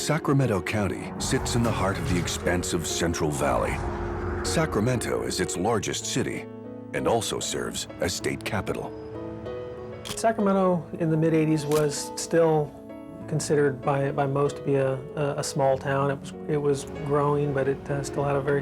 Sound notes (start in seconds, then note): 11.7 camera shutter click